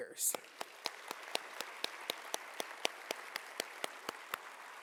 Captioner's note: audience applauding